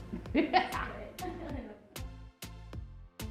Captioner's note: laughing; upbeat music